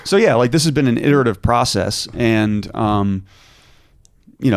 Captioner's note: none